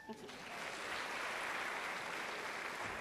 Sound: applause

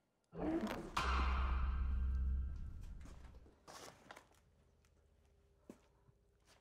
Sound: dinosaur growls; climactic music

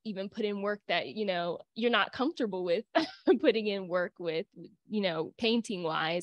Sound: laughter

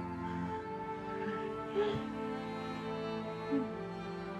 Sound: sobbing

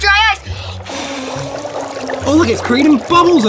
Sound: blowing; bubbling

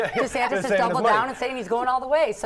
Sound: laugh

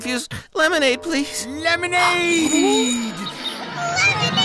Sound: gasp

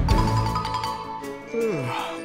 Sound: chiming; yawning

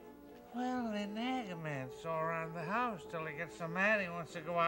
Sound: father, slurring

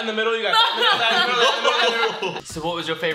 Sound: laughter

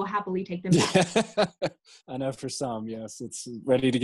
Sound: laughing

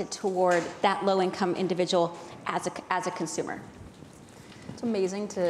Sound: none

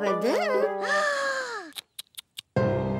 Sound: gasping

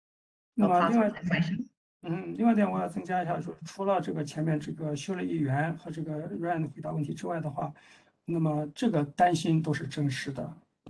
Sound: speaks in Mandarin

